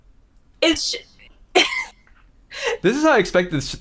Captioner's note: laughs